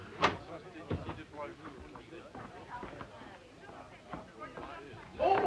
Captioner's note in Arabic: ثرثرة خافتة للضيوف